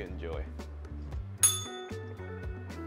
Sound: bell rings

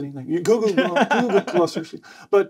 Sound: laughing

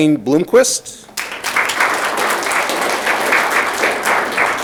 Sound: audience clapping

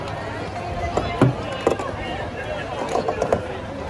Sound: tumbling noises inside

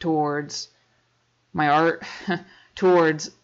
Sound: chuckles

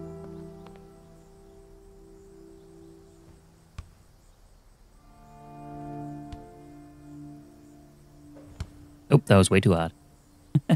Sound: chuckles

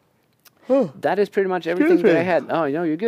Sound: yawning

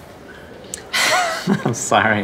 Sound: laughs

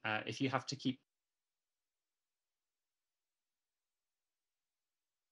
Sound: audio cuts out

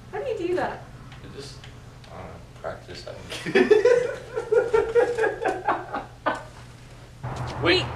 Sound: laughs

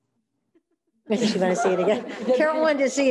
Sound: all laughing

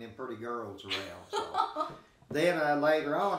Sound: chuckling

